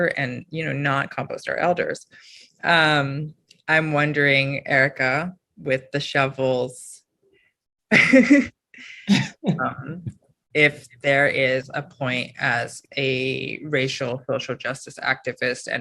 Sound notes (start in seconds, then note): 8.0 chuckles